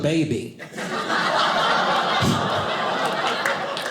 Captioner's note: audience laughing